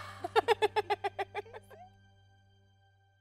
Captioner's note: laughs